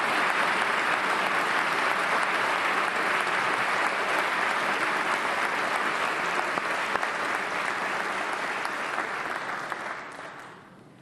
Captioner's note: applause